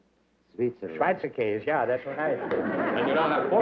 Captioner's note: non-english